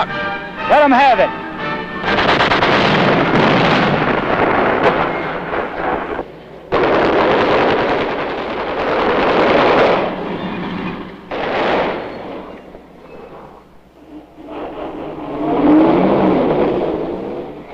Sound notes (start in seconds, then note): 6.6 gun shooting; 9.2 bomb exploding; 14.5 engine sounds